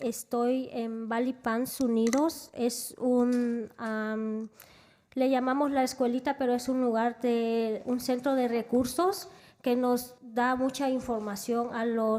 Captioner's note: spanish